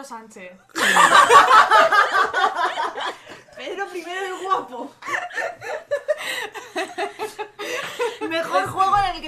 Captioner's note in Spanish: risas